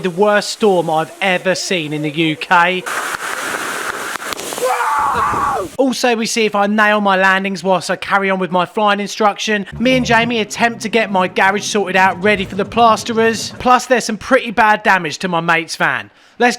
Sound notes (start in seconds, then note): 3.0 rain falling; 4.6 man screams